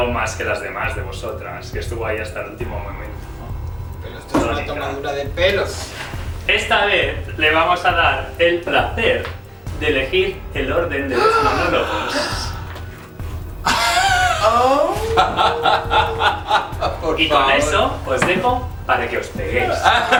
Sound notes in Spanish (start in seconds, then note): 13.7 Suspiros y risas